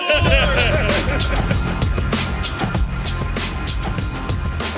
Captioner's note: laughs; theme music plays